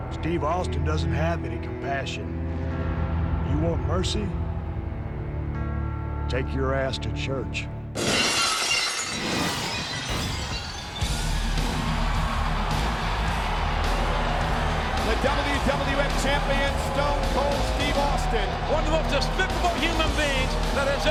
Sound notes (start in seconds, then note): 7.9 glass shatters; 11.5 upbeat music; 12.3 audience cheers